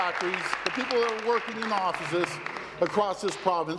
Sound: applause

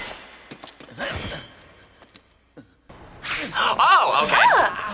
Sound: sword clanging

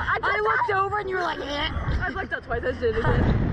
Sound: retches

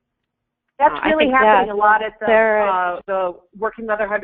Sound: voiceover

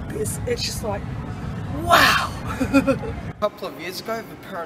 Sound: laughs

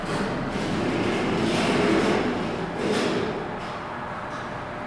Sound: elevator opens

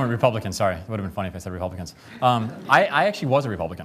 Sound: laughter

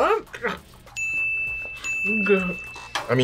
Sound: gags; bell rings

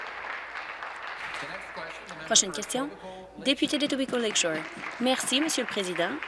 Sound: applause

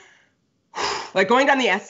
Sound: exhales

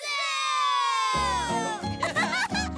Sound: laughing

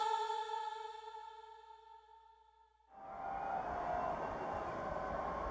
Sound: stadium sounds

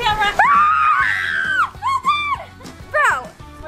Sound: screams

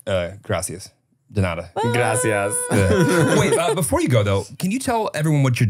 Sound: foreign language; laughing

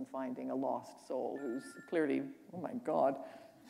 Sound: ringing

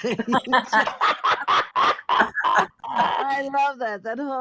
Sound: all laughing

